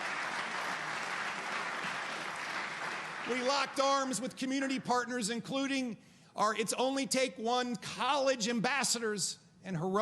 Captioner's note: applause